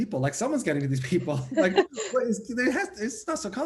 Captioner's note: laughter